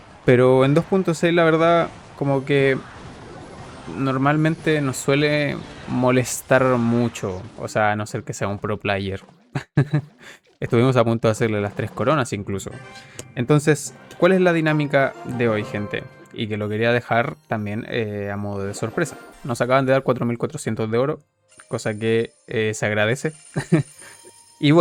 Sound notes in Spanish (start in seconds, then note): 9.5 risas